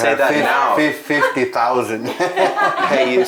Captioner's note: laughs